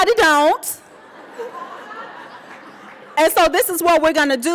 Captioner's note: audience laughing